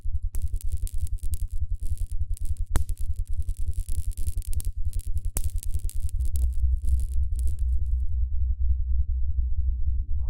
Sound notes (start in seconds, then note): 0.1 humming and buzzing; 3.7 humming continues